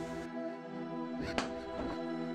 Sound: knife hits floor

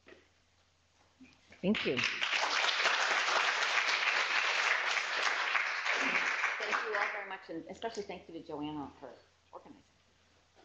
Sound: applause

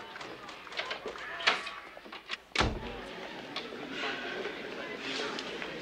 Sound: people chattering; door clunking

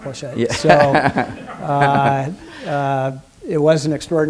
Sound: laughter

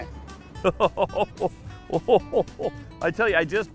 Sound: laughing

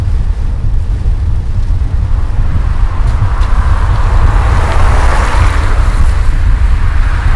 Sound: cars pass; tires screech

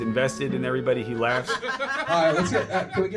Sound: both laughing

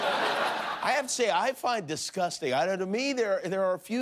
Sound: laughter

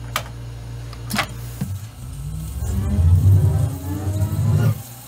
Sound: machinery whirring; dramatic music

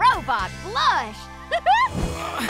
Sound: laughing

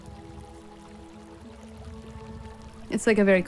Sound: water flows gently

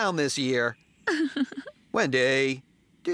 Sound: giggles

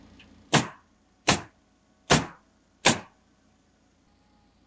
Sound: nail gun bangs

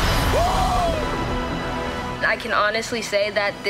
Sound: man screams

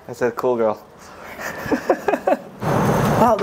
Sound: laughing

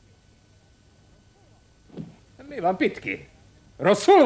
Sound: groans

